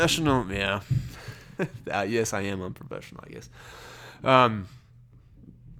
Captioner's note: laughs